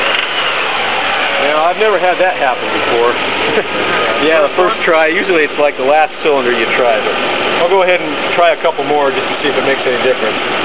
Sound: chuckles

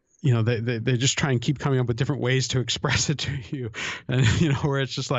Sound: chuckle

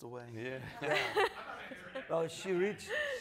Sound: laughing

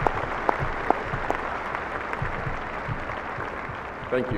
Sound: applauding

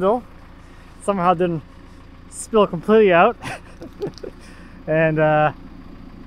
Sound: laughs

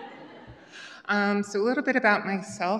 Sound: laughter

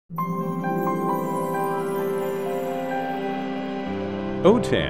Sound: logo sound

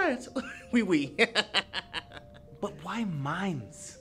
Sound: snickering

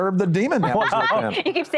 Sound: laughter

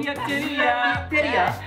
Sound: non-english speech

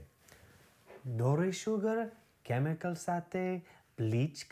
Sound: speaking Gujarati

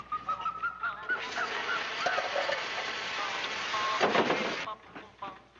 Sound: blowtorch crackling

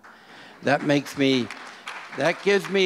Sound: audience applause

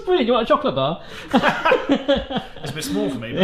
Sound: both laugh

